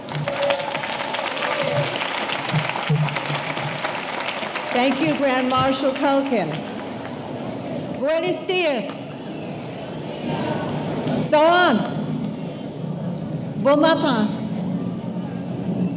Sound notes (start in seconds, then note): 0.0 audience cheering; 0.0 audience applauding; 8.1 speaking foreign language